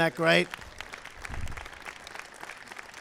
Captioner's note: applause